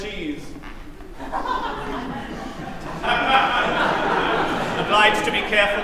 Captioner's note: laughter